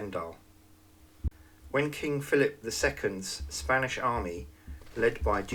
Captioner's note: Spanish